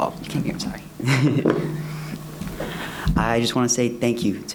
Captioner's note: laughs